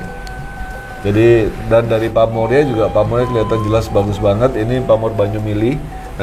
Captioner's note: running water